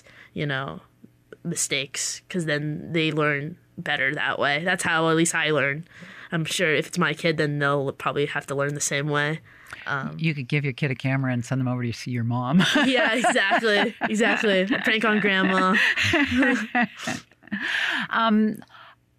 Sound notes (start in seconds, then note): 12.6 laughs